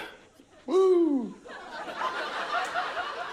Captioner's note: laughter